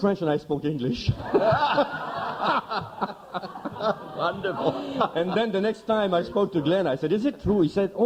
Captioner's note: laughter